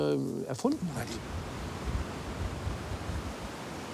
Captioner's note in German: Wellenrauschen